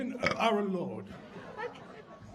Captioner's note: belching